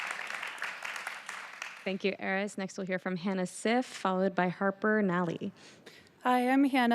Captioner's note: applause